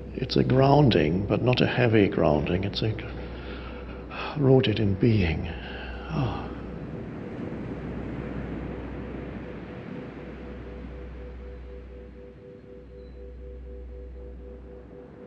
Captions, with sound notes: It's a grounding, but not a heavy grounding. It's like I wrote it in being. (sighs) (soft music) (waves breaking distantly)